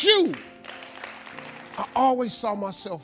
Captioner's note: audience clapping